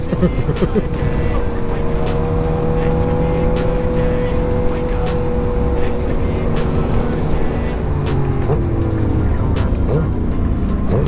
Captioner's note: laughing; upbeat music